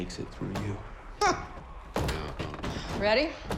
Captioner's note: scoffs